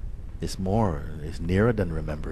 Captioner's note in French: none